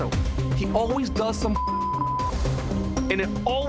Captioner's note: beep